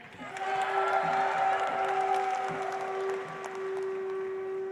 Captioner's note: audience applauds